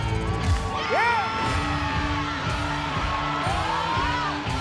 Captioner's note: audience cheering